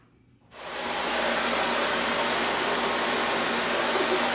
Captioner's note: vacuum running